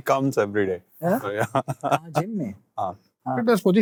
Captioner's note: chuckling